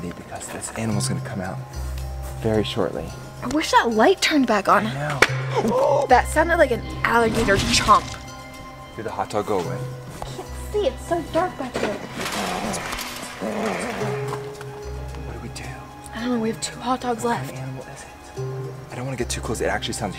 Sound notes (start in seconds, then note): 5.2 loud clap; 12.1 growling